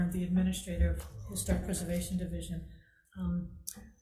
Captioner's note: none